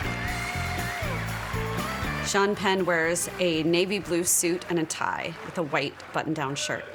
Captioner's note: applause